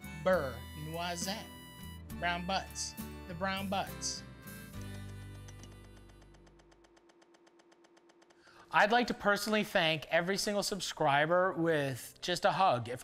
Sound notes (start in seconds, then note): 4.4 smacks lips